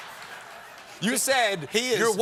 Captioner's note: laughter